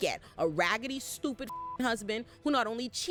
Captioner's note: beep